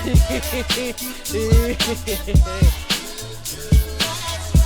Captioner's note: manic laughter